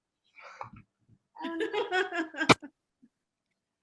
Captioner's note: laughs